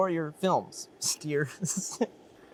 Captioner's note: chuckles